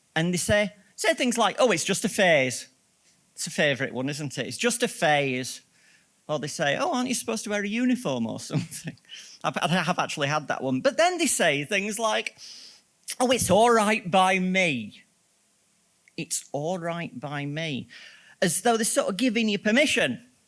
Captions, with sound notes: And they say things like, "oh it's just a phase!" That's a favourite one, isn't it? "It's just a phase". Or they say, "Ooh aren't you supposed to wear a uniform or something?" (LAUGHS) I have actually had that one. But then they say things like, "Oh it's alright by me". It's alright by me? As though they're sort of giving you permission.